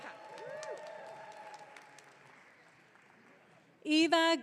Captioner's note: audience cheering